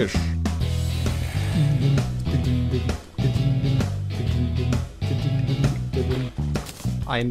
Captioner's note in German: mit der Musik mitsummen